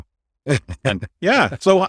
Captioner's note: laughs